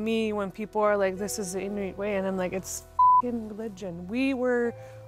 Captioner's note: beep